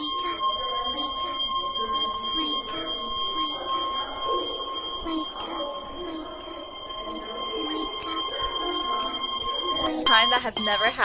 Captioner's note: A continuous ringing noise. A distorted voice speaking in the background; radio Host cuts in clear. Distortion gone, alarm clock blaring